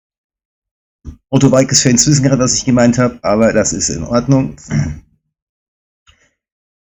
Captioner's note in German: räuspern